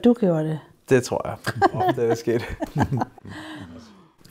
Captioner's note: laughs